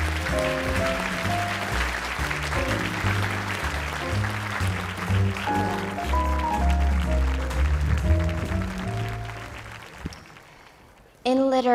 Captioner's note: cheering and Applause